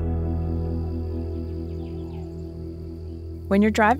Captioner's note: insects humming